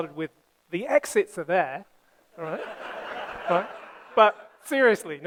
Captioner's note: laughter